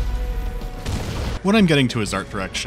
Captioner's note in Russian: бабах